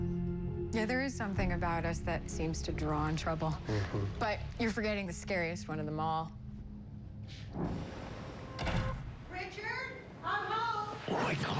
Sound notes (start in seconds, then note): 7.6 door closes